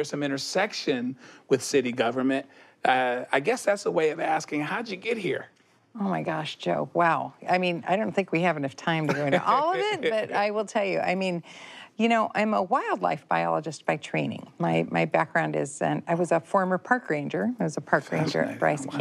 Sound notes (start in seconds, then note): 9.0 he laughs